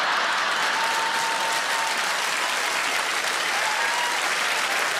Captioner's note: audience laughs; audience applauds